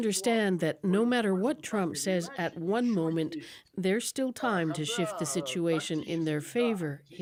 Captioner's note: speaking alternate language